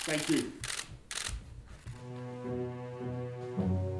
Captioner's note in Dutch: camera's klikken; langzame muziek